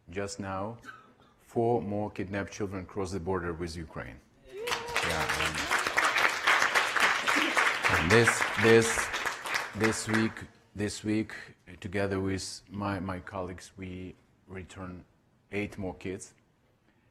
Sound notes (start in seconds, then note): 4.5 audience applauding